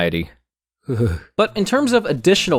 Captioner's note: shudders